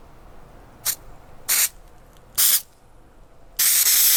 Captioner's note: spraying